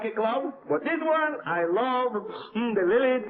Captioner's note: sniffs